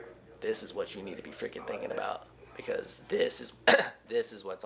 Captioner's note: coughs